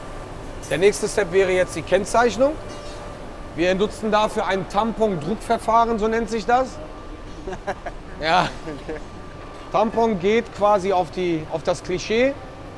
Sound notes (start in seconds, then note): 7.4 laughs